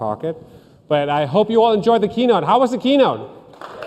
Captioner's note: cheers and applause